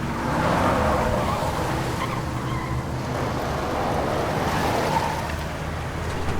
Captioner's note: vehicle tires squealing